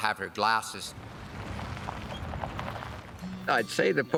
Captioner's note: ground crunching